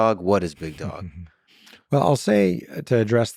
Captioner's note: laughs